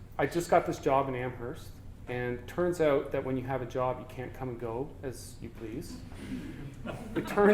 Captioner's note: audience: Laughter